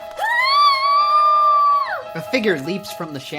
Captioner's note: Mary screaming